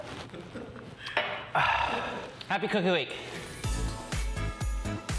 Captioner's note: sighs